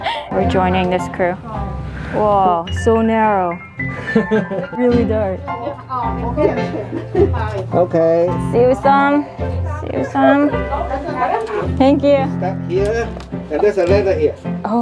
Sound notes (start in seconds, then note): 3.9 man laughs; 8.6 in Cantonese